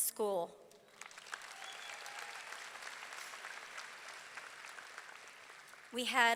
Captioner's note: audience clapping; audience cheering